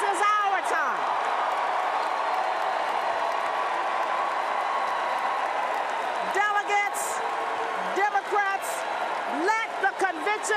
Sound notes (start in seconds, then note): 3.3 cheers and Applause